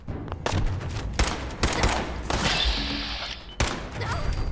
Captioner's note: guns firing